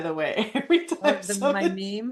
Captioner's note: laughs